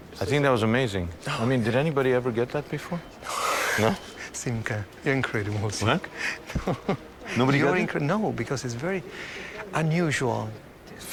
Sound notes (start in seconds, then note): 3.2 whooshing; 6.2 chuckling